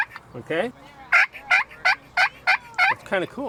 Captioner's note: lure yelping